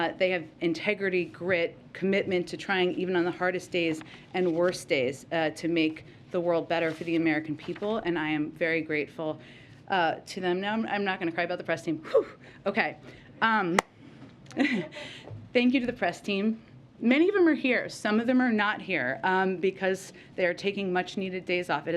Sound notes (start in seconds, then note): 14.5 laughs